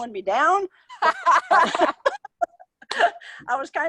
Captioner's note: both laughing